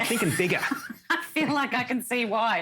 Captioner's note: laughter